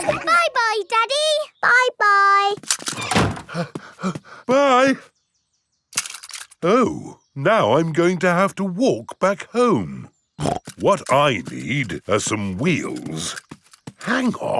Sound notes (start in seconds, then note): 0.4 snorts; 3.4 panting; 10.4 snorts